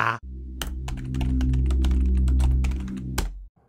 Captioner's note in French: Bruit de clavier